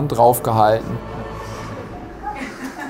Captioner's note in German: Lachen